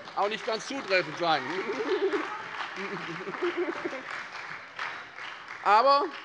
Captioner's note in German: Beifall bei der SPD und der FDP